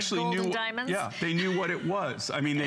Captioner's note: laughter